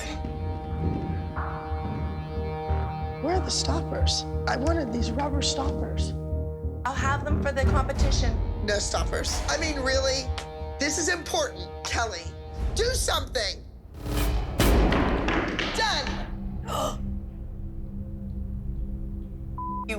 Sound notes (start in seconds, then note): 0.0 grinding; 16.7 gasps